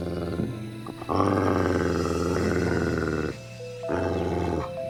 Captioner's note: snarling